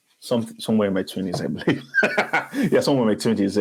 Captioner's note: laughs